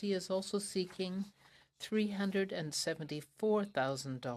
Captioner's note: speaking french